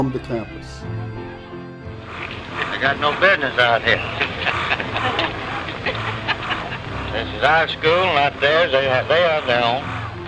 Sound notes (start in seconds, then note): 5.8 laughing